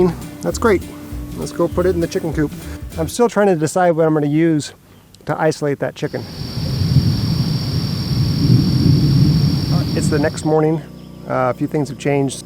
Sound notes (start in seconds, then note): 8.0 thunder